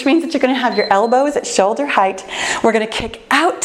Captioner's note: timer beeps